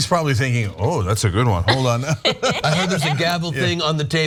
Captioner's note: laugh